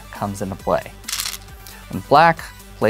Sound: stones rattling

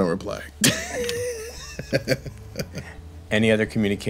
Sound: laughing

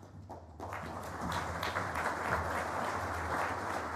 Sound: applause

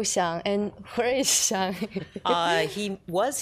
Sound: laughs

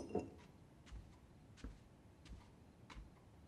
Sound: footsteps

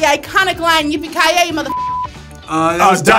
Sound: beeps

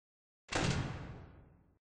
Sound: door noise

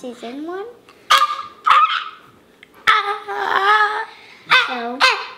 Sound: squeaking

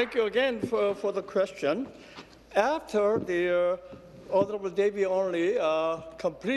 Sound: applause

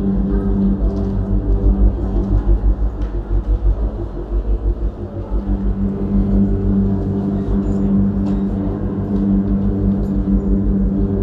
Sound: hotel lobby ambience, people talking

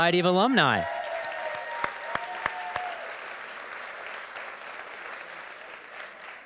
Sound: audience cheering and applauding

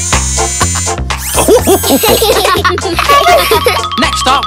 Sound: rhythmic music; laughing

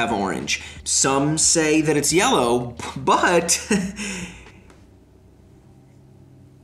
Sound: laughs

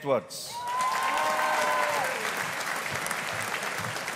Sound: audience applauding

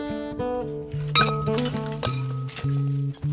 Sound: clang of gate

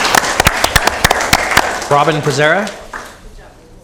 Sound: applause

